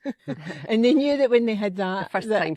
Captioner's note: laughter